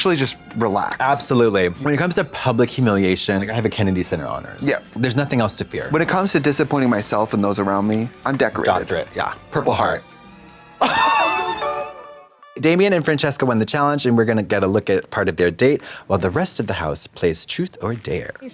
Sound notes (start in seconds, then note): 9.6 blonde Women in unison; 10.8 Katya wheezes; 11.3 pleasant music